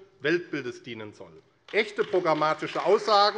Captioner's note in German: Beifall AfD